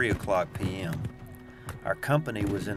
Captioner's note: distant battle sounds